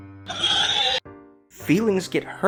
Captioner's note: pigs squeal